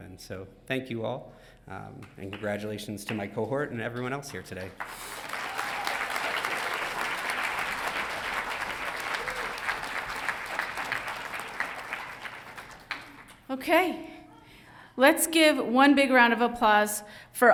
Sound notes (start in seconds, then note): 4.9 audience applauding